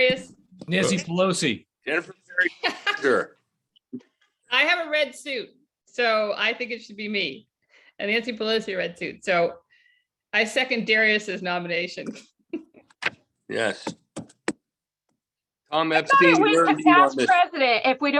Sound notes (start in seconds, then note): 4.1 laughter